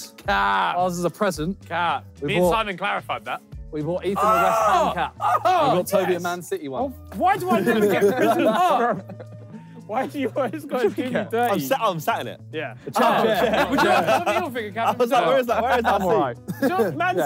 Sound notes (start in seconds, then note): 4.7 Ethan cheering; 12.8 all laughing